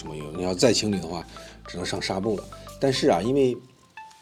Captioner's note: sandpaper